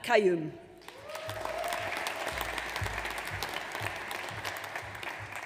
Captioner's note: audience applauds